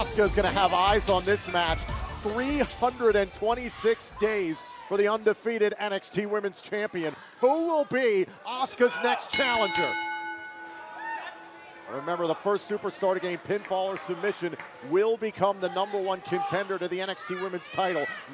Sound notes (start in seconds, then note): 9.2 bell ringing